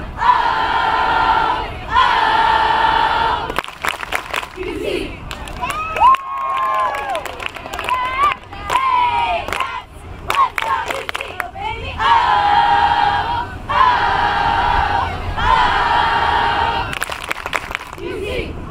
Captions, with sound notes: Oh! Oh! Clapping UC! (Cheering) Hey cats! Let's go UC! Oh baby oh! Oh! Oh! Clapping UC!